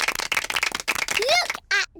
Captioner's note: applause